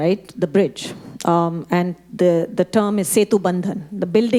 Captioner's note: speaking Hindi